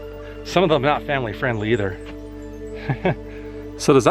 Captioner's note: laugh